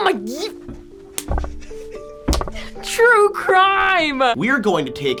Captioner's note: React snickers